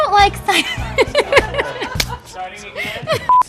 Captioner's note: laughter